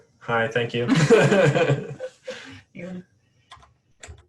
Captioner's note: laughing